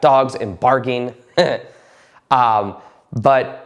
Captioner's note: chuckling